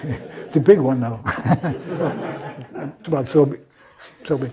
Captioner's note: laugh